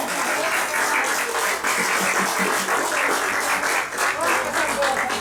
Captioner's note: applause